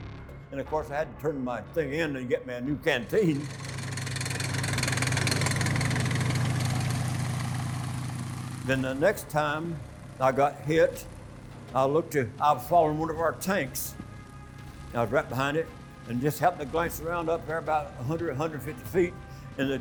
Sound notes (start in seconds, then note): 3.7 engine roaring